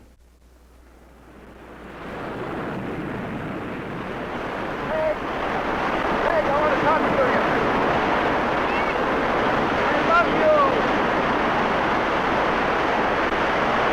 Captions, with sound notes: (waves roaring) Meg. Meg, I wanna talk to you. - Yes! - I love you! (waves roaring)